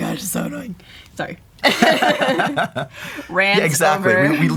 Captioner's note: laughing